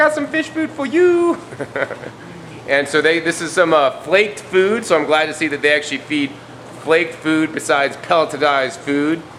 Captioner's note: ha-ha